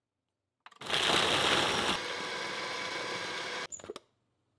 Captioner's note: blender grinding